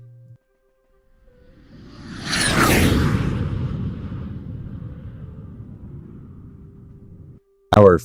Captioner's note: jet Whoosh